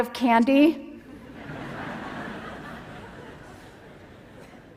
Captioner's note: laughter